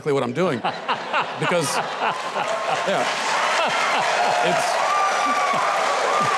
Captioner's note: audience laughing and cheering